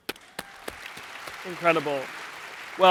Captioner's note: audience applauds